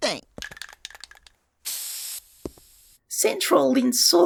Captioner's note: spray can noises